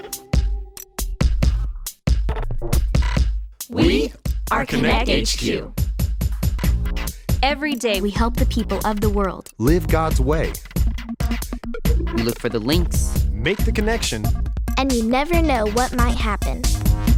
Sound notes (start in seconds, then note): 0.2 upbeat music; 3.9 in Unison